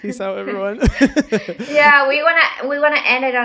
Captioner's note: person laughing